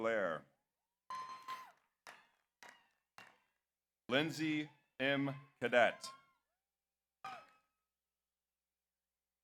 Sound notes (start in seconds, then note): 1.3 audience applauds; 1.3 audience cheers